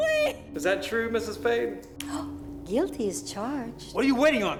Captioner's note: gasps